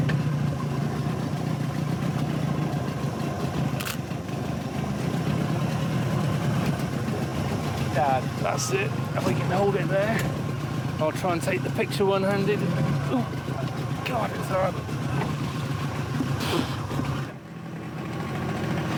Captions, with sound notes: (boat rumbling) (camera clicking) There. That's it. If I can hold it there. I'll try and take the picture one-handed. Oh, God...